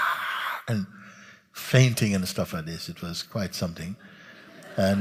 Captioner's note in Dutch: gelach